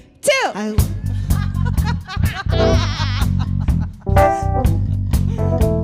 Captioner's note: all laughing